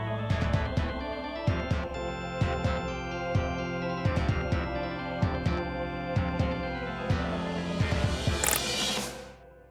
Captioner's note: pip